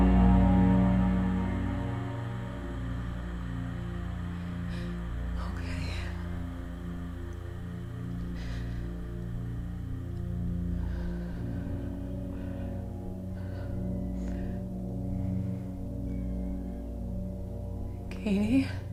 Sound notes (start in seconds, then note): 8.5 Leona breathes deeply